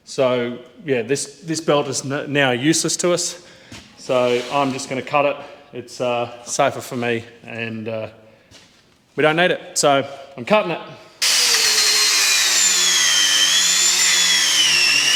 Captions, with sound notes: So, yeah, this belt is now useless to us. So I'm just gonna cut it. It's safer for me and we don't need it. So I'm cutting it. (drill whirring)